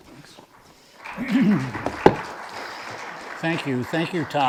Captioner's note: audience applauds